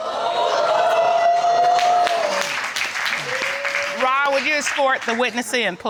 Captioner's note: audience reacts